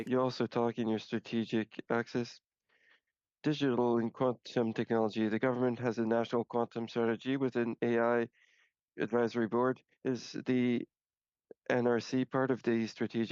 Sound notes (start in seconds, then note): 4.1 speaking French